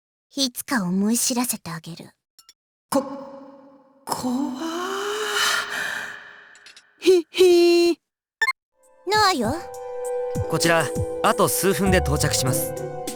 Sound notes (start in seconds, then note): 7.6 sneer